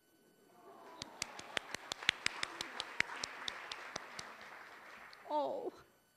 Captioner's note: applause